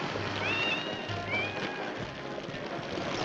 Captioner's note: cat meows; fire crackling